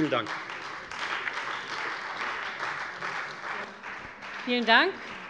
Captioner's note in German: Beifall Freie Demokraten